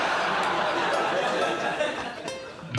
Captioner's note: laughs